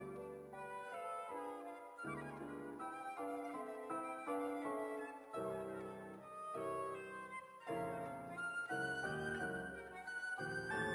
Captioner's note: speaking French